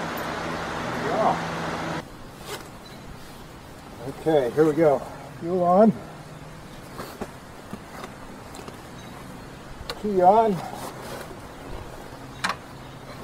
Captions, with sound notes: There you go. [zipper zipping] Okay, here we go. Fuel on. [Click] Key on.